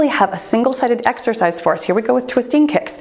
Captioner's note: timer beeps